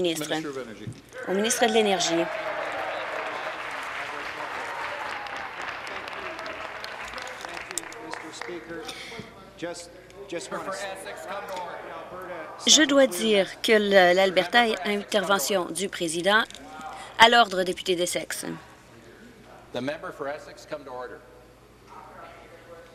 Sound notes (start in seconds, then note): 4.7 applause; 5.3 cheers